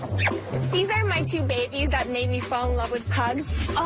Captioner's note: kisses